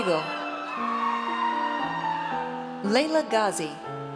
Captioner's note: audience cheers